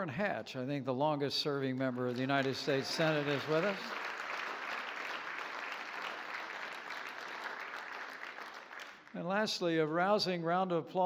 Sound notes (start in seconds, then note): 4.6 applause